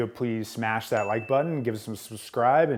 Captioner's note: bell dings